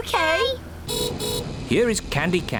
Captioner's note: horn beeps